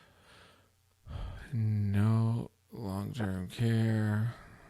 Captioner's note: sighs